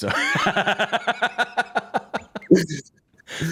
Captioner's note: laughter